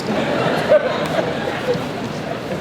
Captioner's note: crowd laughs